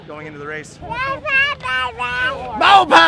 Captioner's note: baby babbling